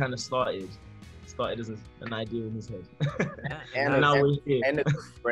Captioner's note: laughs